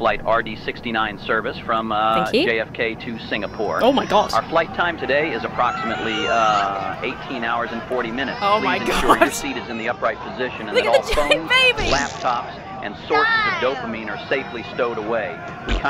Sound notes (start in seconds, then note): 6.4 passengers shouting; 8.5 laughs; 11.8 baby blows raspberry